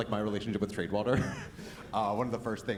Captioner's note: chuckles